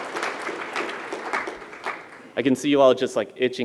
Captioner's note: applause